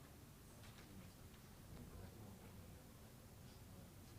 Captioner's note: indistinct chatters